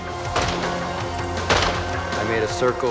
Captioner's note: gunshots